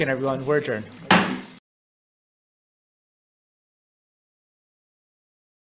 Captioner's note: Chair's gavel bangs